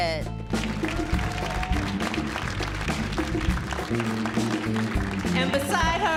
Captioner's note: audience cheers and applauds